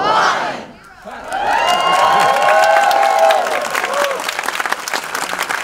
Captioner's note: audience cheering